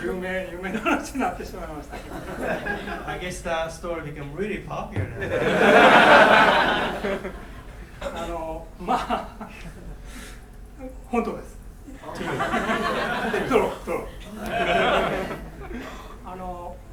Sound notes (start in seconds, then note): 0.2 speaking in foreign language; 5.1 laughing; 8.3 speaking in foreign language; 12.1 laughing; 16.3 speaking in foreign language